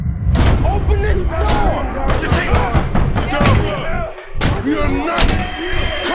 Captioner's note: yelling and banging